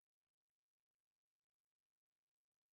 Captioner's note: none